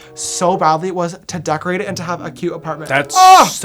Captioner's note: ohhhhhh!